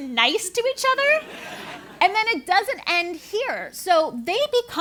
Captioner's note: laugh